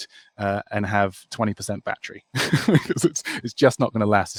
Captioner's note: laughs